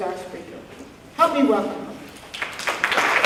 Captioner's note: applause and cheering